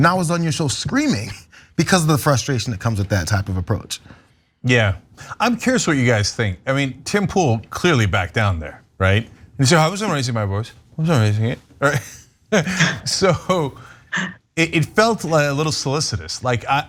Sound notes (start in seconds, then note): 12.5 laugh